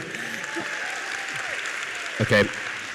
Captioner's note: audience applauds